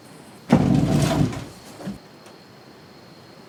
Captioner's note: chair squeaks